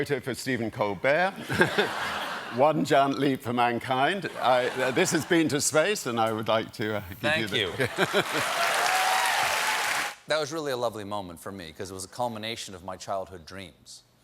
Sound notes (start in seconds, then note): 7.9 cheers and applause